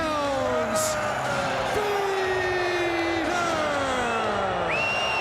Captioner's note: audience cheers